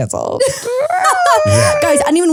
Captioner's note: laughs